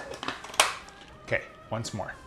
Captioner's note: lid clicks